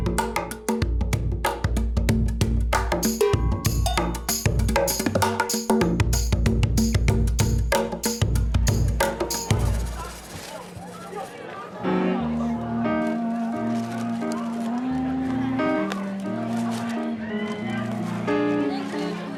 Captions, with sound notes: ( children chattering ) - THANK YOU. - YOU'RE WELCOME.